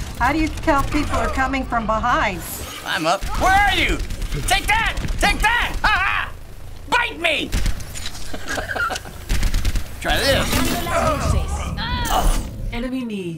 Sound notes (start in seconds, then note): 8.1 laughing